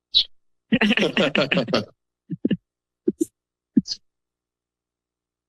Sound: laughter

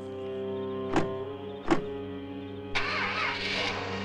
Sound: car doors closing; car engine starting

